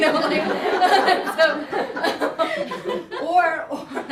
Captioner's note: laughter